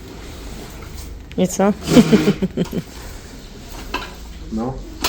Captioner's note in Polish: śmiech